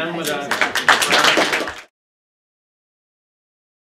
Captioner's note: applause